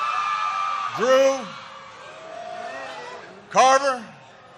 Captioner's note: applause